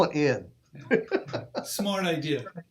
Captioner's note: laughs